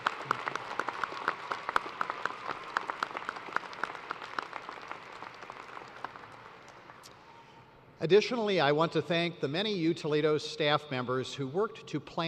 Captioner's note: applause